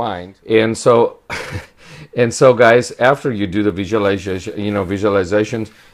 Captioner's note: laughs